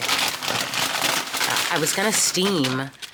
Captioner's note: paper rustling